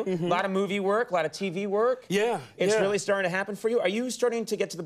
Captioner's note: none